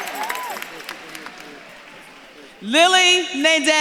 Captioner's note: audience claps and cheers